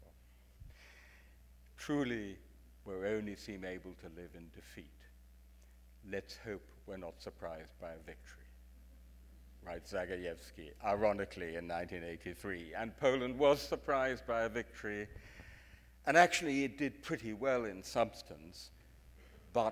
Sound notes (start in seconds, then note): none